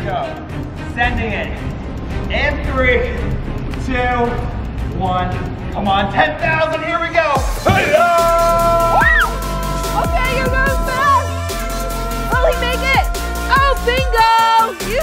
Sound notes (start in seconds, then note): 7.6 cheering